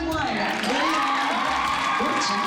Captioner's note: cheering and applause